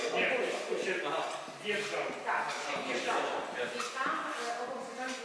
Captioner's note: distant chatter